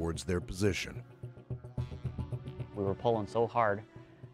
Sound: voiceover

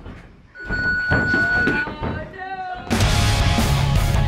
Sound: round timer sounds; upbeat rock music

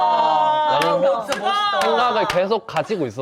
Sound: applause

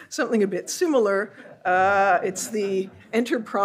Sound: audience laughs

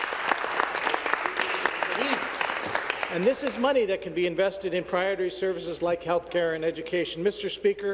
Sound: applause

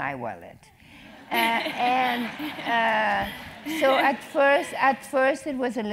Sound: laugh

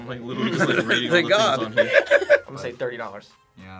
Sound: React laughs; laughs

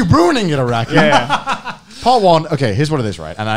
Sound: laughing

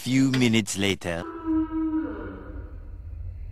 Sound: ominous sounds

